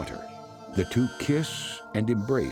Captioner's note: scanning beep